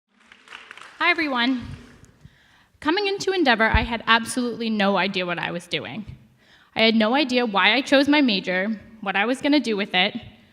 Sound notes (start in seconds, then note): 0.1 audience applause